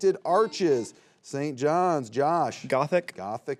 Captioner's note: buzzer beeps